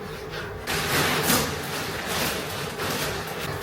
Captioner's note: rustle rustle